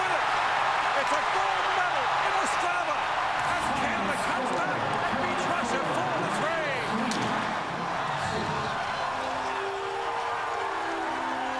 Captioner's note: cheers and Applause